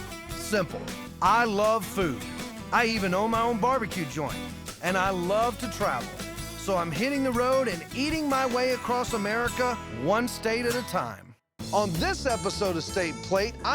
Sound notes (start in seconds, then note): none